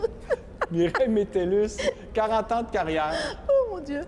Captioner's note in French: rire